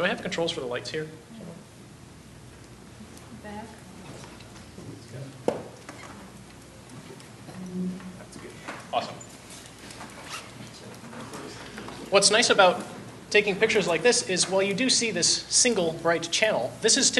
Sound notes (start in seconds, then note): 3.7 voiceover